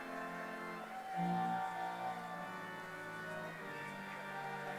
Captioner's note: audience cheering